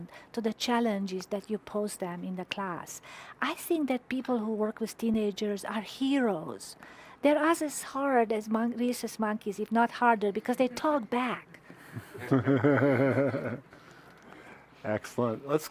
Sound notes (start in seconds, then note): 12.0 laughing; 12.1 audience chuckling